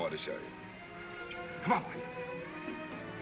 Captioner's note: clicking sound